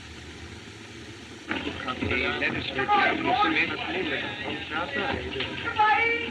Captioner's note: chattering